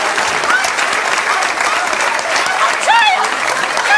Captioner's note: woman shouting